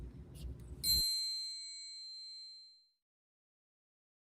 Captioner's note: bell rings